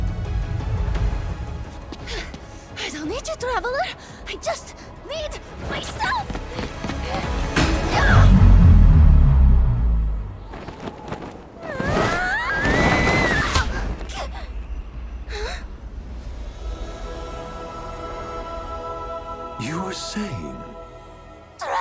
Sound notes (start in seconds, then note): 0.2 suspenseful music; 5.8 rousing music; 9.2 wind howling; 11.6 screaming; 16.7 bright music